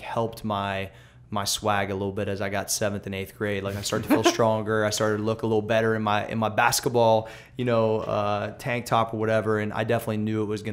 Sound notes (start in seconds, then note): 3.9 laughter